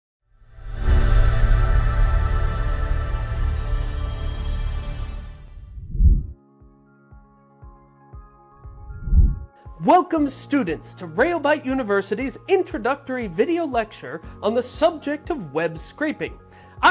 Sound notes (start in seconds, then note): 0.5 bright music; 5.6 air whooshing; 8.4 soft music; 8.9 air whooshing